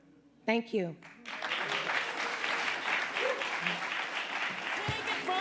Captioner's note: audience applauding